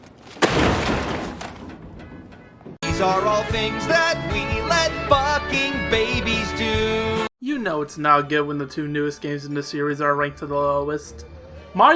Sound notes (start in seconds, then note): 0.2 sound of a computer crashing into the dumpster